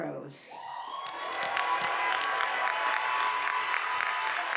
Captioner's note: audience applauding